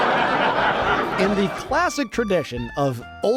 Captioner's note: audience laughter